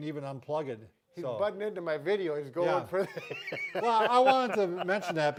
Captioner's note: laughs